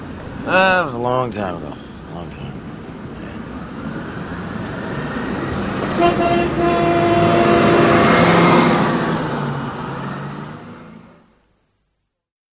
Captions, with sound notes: Well, it was a long time ago. A long time ago. (siren in distance) (car horn honking)